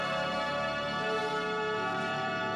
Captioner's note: crowd murmuring